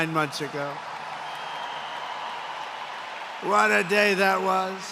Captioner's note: applause